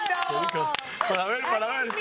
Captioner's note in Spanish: aplausos